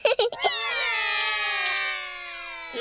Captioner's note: laughs; all cry